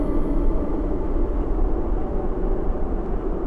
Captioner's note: wind howling